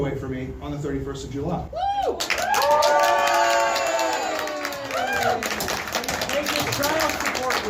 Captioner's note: audience starts clapping